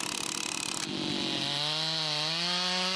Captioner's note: engine roar